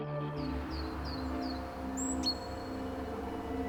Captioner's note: birds chirping